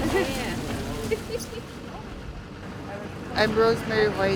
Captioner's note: laughs